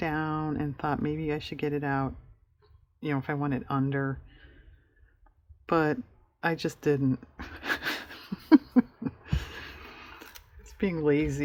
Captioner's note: laughs